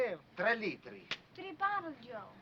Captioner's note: speaking foreign language